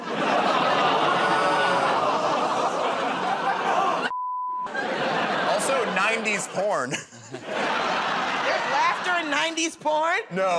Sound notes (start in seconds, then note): 2.2 laughter, groaning; 6.7 chuckles